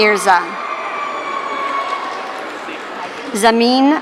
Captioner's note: audience cheering